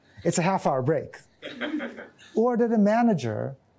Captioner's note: laughter